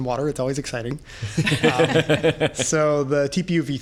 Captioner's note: laughter